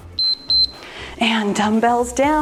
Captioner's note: timer beeps